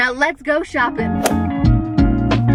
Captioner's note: relaxing guitar music; whooshing